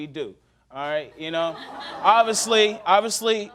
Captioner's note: audience chuckling